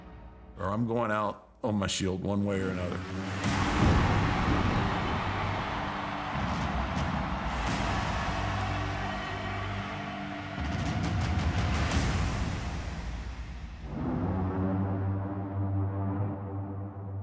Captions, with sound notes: or I'm going out on my shield one way or another. (dramatic music) (crowd cheering) (pensive music)